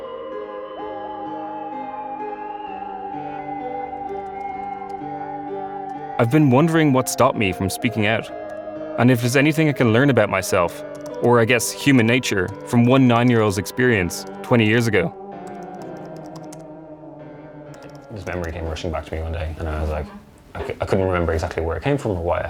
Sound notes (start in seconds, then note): 0.1 mysterious music continues; 15.4 keyboard clicking